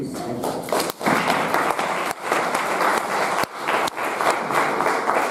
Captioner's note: audience applauding